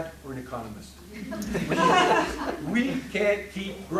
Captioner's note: laughing